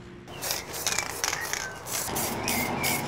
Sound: spraying

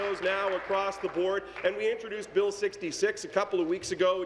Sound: applause

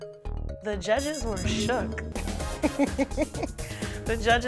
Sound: laughs

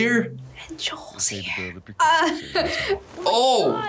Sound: whispers; laughs

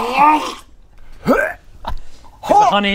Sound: hyuargh

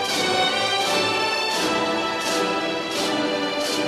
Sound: none

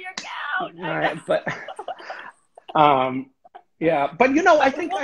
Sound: laughs

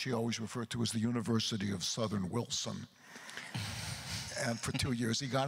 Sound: chuckles

